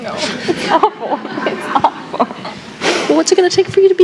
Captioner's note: laughter